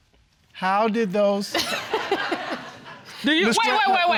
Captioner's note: audience laughing